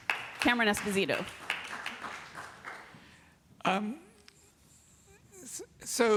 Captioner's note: applause